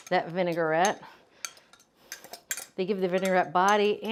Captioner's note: spoon scraping